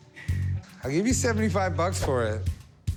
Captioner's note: laughs